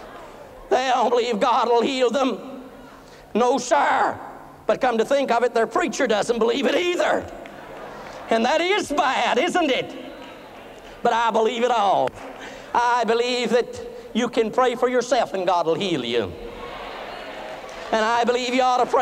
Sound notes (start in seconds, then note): 7.4 applause; 17.6 applause